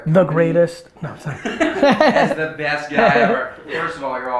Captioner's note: laughs